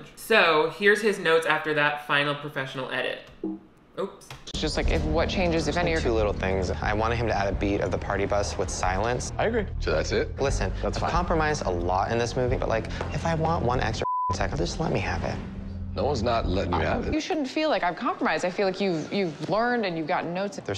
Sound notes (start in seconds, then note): 14.0 beep